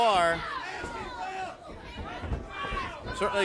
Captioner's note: crowd chatter